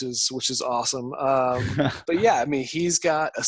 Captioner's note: interviewer laughs